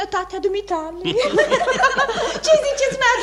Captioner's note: everyone laughs